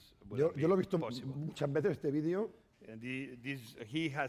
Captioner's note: speaking spanish